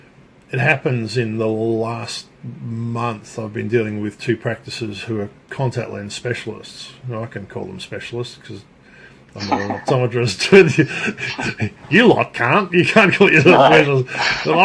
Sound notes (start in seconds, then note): 10.5 laughing